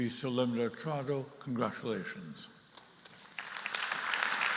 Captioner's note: speaking in Latin